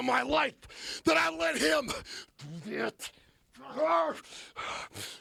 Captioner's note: yells